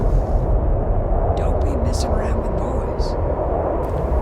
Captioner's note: woman's Voice